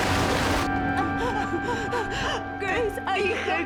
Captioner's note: crying